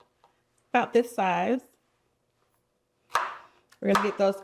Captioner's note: chopping